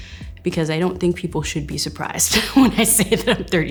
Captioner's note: laughs